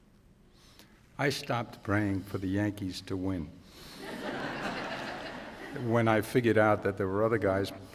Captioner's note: laughter